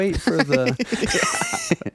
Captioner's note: laughing